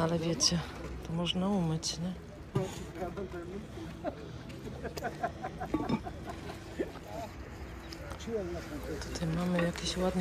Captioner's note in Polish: śmiech